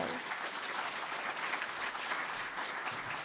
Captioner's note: applause